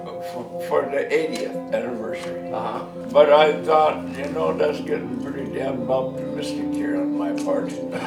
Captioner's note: laughs